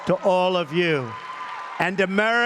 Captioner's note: applause